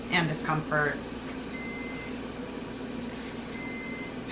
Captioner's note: beeping